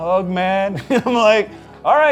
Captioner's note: laughing